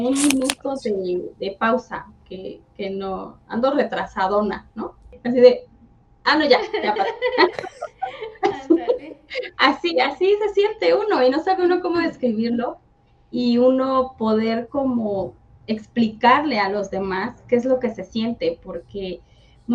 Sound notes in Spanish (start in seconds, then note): 6.6 risas